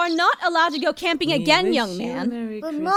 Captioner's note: quietly